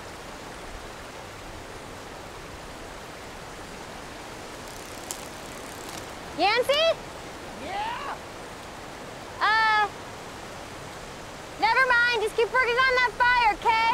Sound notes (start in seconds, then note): 3.5 stick breaks in distance; 4.2 strange insect-like sound; 6.9 Yancy, in the distance